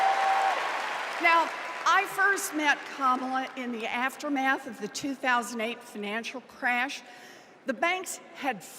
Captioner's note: cheers and applause